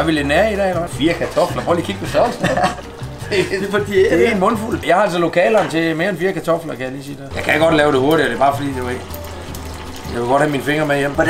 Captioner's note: both laughs a bit